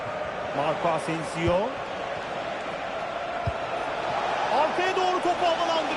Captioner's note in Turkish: coşkulu tezahürat